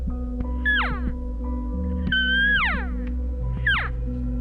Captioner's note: elk call squeaking